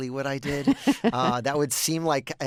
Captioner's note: laughter